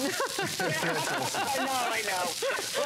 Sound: laughter

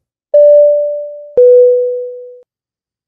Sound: beeps

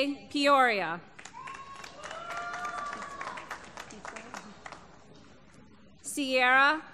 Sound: applause

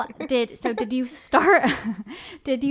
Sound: chuckles

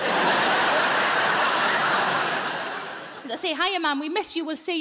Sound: audience laughing

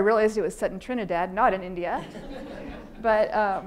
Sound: audience laughing

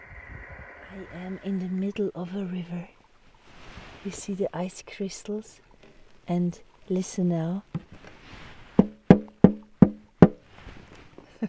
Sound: knocking on ice

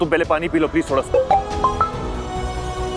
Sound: mobile phone chimes

